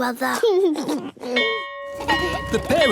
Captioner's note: giggles; bell ringing